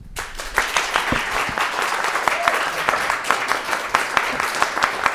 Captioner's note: audience applauding